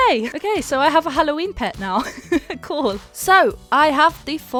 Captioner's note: laughs